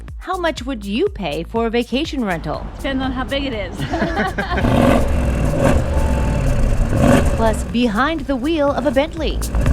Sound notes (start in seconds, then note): 3.8 couple laughing; 5.7 car engine revving